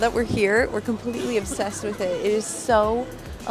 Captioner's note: giggles